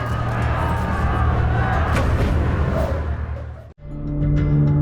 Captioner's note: mysterious music; arrow whooshing; reflective music